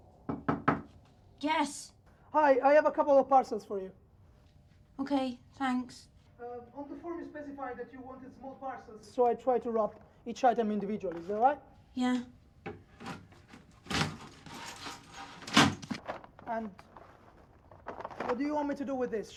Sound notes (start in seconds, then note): 0.2 hand knocking on door; 12.7 letterbox clattering; 14.8 parcels scraping